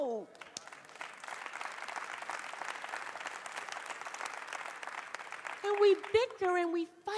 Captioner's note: applause